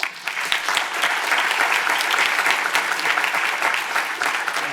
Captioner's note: audience applauds